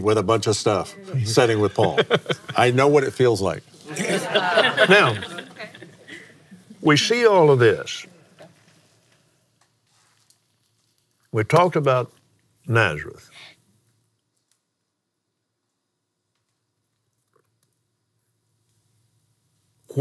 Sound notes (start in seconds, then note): 3.8 laughs